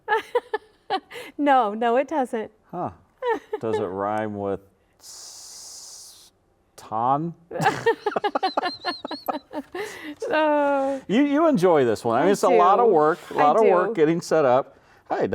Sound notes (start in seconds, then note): 0.3 laughing; 7.6 both laughing